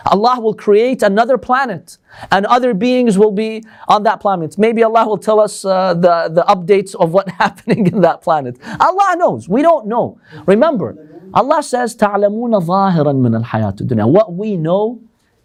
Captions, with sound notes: Allah will create another planet and other beings will be on that planet maybe Allah will tell us the updates of what's happening in that planet. Allah knows, we don't know, remember Allah says, [Arabic] what we know